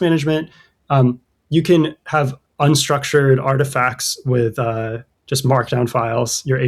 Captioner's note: uh